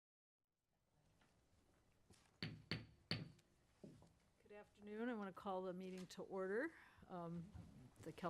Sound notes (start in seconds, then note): 2.4 gavel banging